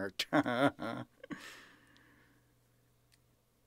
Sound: laughing

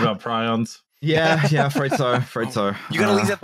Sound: laughter

